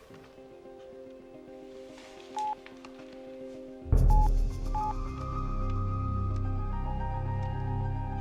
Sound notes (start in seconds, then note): 0.6 suspenseful music; 2.3 phone beeps